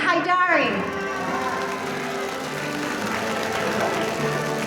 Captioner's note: audience applauding